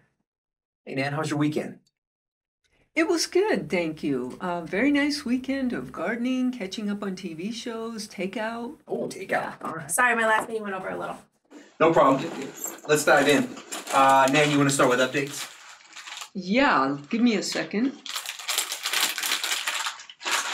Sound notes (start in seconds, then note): 12.3 items jostling in purse; 17.9 plastic bag crinkling loudly